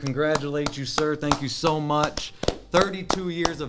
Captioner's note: both clapping